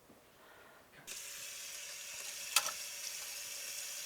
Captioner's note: water running